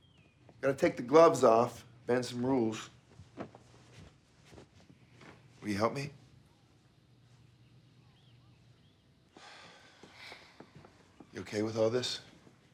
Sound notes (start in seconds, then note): 9.3 both sigh